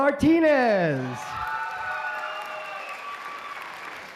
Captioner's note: applause